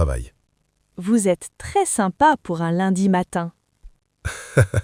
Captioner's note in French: rire